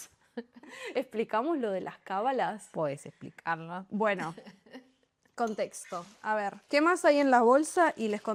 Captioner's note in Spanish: risas